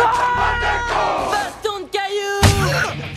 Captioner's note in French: cris de guerre